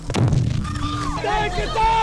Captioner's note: bomb explodes